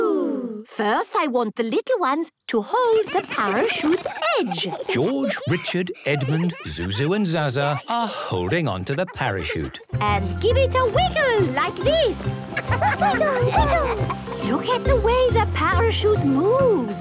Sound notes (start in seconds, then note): 12.5 laughter